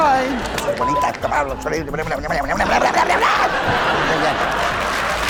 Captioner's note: laughing; grumbling frantically; loud applause